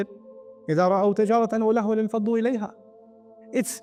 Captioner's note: Arabic